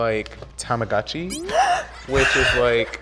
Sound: gasps excitedly

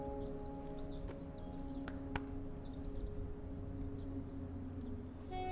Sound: clapping

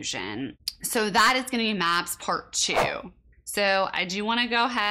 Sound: fast whoosh

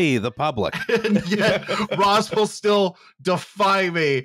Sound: laughter

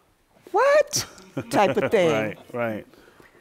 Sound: laughter

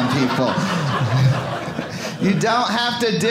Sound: audience laughing

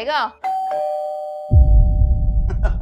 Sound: door bell rings; laughing

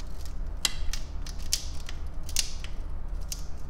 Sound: crack

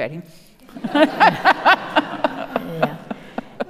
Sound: audience laughing

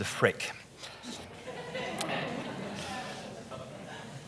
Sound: audience laughs

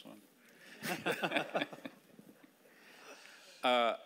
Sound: laughing

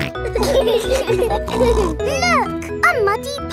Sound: laughing

